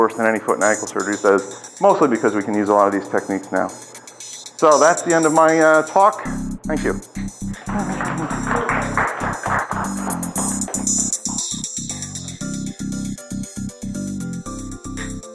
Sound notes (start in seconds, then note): 7.6 audience claps; 10.6 upbeat funky music